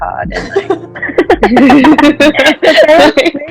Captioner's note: laughter